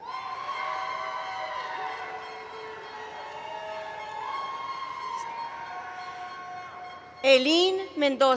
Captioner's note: cheering